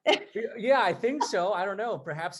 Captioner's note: laughs